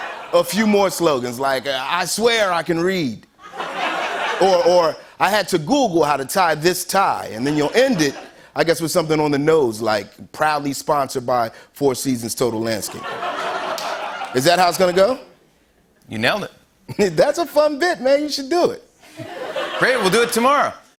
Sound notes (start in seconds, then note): 3.4 laughter; 12.9 laughter and applause; 19.0 laughter